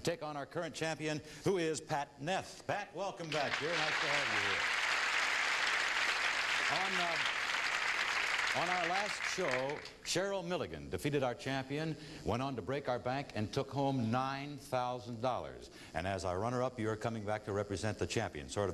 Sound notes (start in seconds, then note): 4.9 applause